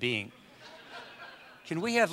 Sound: audience laughs

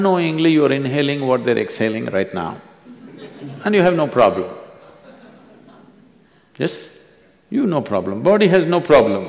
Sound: few laugh

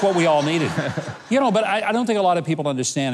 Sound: audience laughing

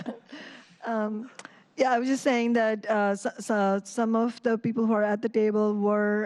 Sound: laughter

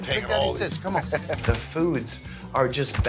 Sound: laughs

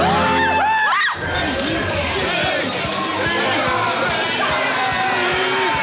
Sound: screaming; chanting

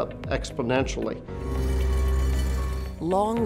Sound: asphalt roller passing

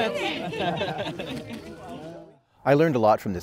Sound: all chuckling

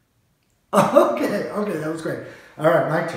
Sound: chuckles

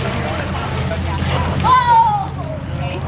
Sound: splash

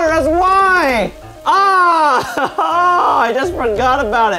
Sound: yelling

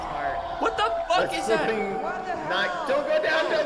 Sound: wailing continues

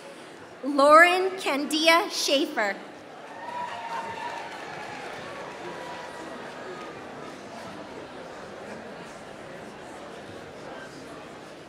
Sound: applause

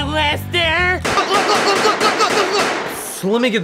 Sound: multiple gunshots, groaning

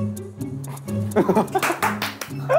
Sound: laughing

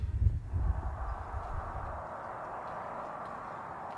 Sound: wind howling

